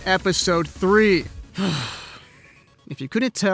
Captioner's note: sigh